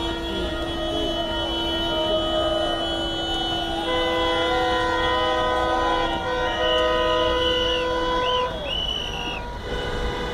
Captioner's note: A lot of Traffic and Noise: Cars horn